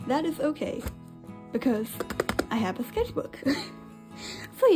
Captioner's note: laughs